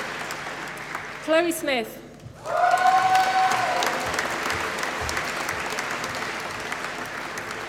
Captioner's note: applause